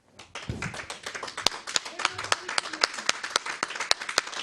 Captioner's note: audience applauds